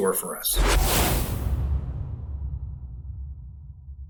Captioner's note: whooshing sound